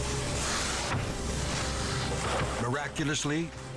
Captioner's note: body thudding